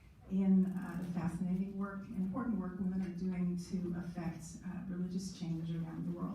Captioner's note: none